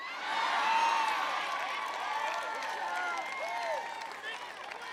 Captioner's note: applause